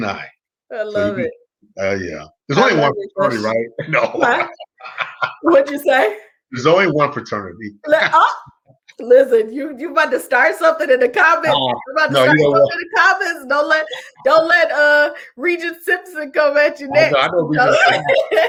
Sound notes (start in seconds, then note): 4.4 laughs